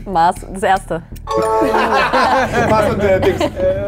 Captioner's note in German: Klingeln, Lachen